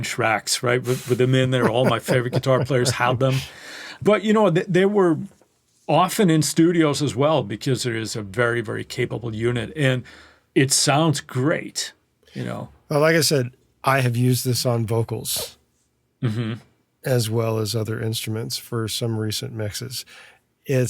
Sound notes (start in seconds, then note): 3.5 laughs